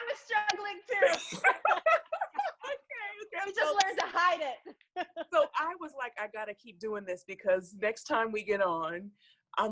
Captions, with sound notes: - I was struggling too. (laughs) But we just learn to hide it. - So I was like, I gotta keep doing this because next time we get on,